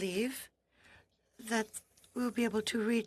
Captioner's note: speaking French